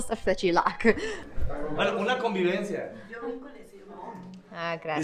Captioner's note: speaking in Spanish